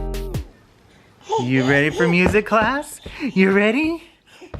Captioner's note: baby excitedly taps table